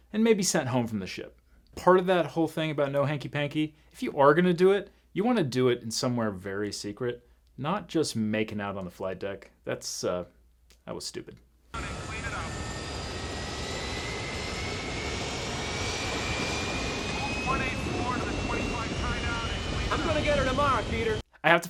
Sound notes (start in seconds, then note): 13.5 jet roaring